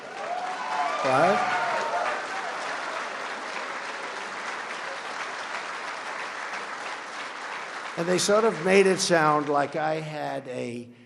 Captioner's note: laughter, applause